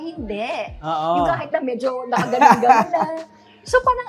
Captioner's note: chuckles